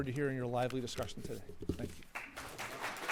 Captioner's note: applause